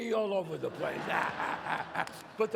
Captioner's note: audience laughs; laughs